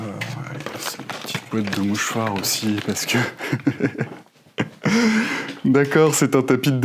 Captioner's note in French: rires